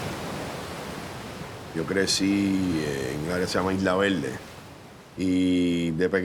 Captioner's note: man speaking Spanish